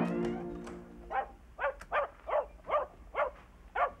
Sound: Muffy barks

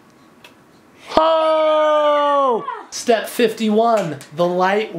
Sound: cheering

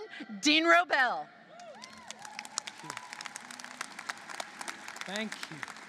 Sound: applause

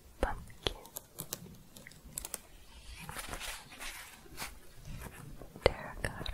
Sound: jingling, then scratching

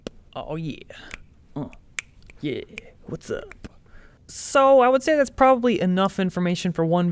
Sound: happy dancing and snapping fingers

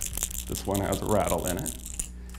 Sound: tackle rattling

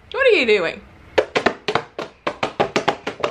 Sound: banging

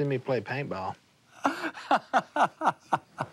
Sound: laughing

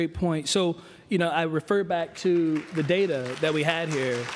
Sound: applause

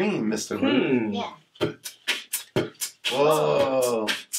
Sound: Mr. Root beatboxing quickly

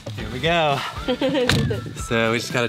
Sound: laughing

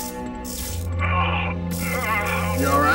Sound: moaning in agony

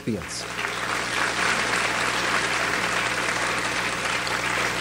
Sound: audience applauds

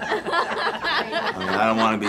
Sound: women laughing

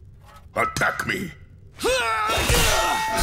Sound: grunting

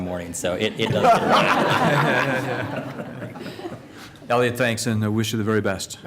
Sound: laughter

